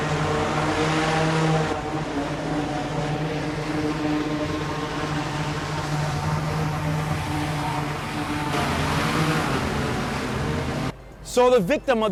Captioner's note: boat engine motor sound